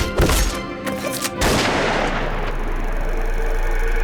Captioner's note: gunshot fires